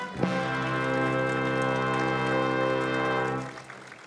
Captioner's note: applause